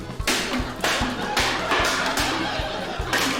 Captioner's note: laughter